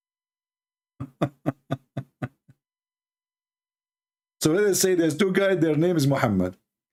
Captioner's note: ketawa